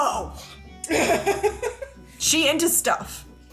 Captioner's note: laughing